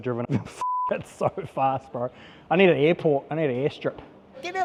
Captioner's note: beep